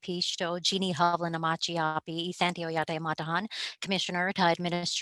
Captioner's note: speaking native language